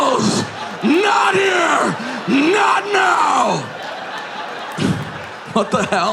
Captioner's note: audience laughing